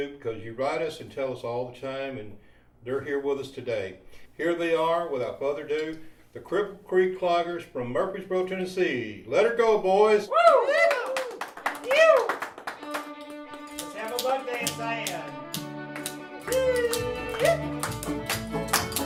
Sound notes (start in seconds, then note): 10.3 crowd cheering; 16.1 performers shouting